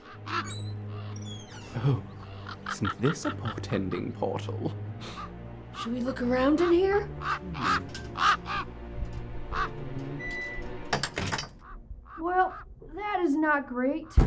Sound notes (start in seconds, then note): 0.2 door creaking; 8.9 more cawing; 9.8 door locks